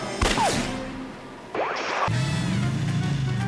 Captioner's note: gun fires; transition whooping; whimsical jazz music